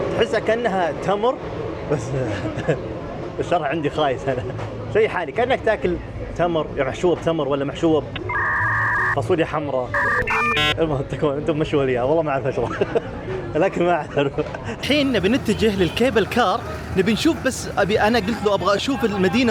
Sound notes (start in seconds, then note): 13.1 laughs